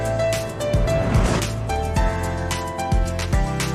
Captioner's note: wind whooshing